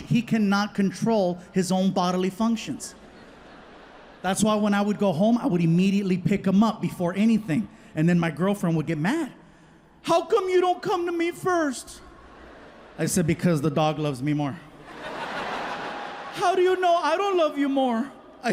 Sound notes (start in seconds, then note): 14.8 audience laughing